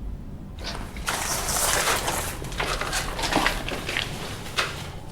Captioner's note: paper rustles